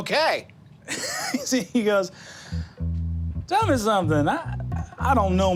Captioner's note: laughs